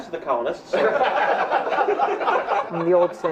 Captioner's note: laughs